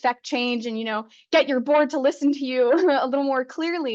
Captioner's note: chuckles